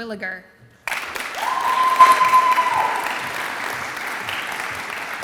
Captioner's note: audience applauds and cheers